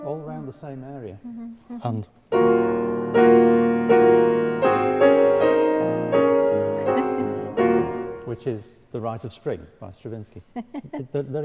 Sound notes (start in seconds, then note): 2.3 piano music; 6.5 laughing